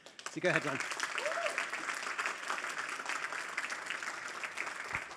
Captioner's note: applause